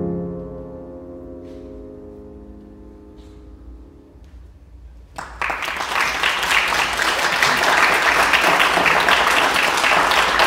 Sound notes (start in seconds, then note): 5.1 audience clapping